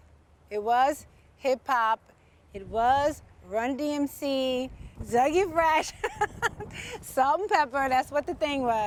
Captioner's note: laughter